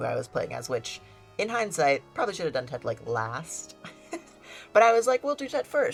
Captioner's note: laughs